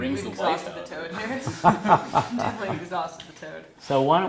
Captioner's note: laugh